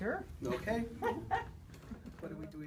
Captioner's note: laughter